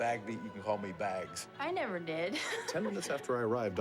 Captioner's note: laughs